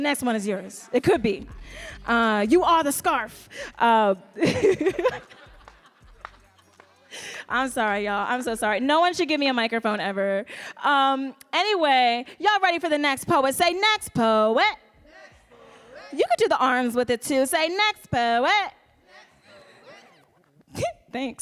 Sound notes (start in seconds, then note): 4.4 audience laughs; 4.4 laughs